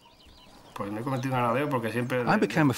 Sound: he speaks Spanish

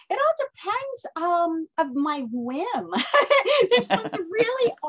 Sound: laughs

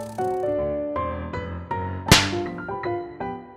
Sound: slaps

